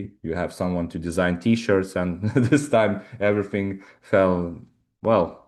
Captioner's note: chuckles